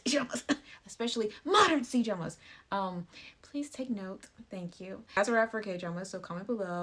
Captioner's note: cough